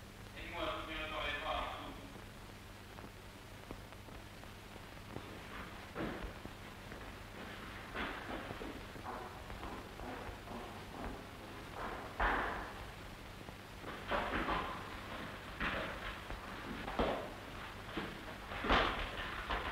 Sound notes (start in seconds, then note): 11.7 footstep